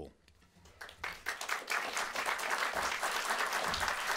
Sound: applause

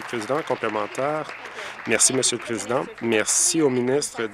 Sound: applause

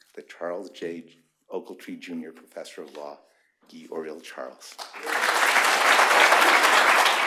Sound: applause

